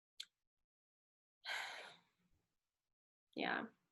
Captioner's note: sighs